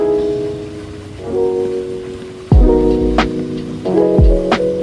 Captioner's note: soothing sounds of water